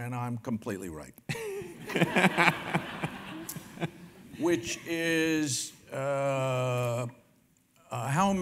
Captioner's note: laugh